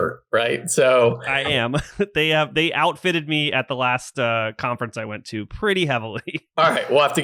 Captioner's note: laughs